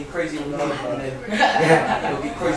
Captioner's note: laughter